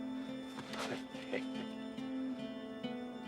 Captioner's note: chuckles